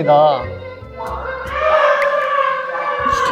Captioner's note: animal sound